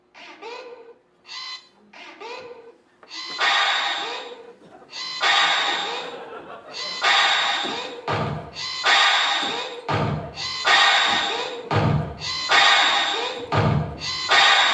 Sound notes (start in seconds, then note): 0.3 mechanical whirring rhythmically; 3.0 louder rythmic clangs and whirrrs